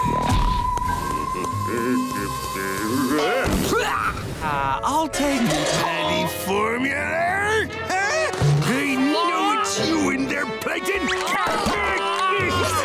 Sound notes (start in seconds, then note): 0.0 humming; 10.9 groaning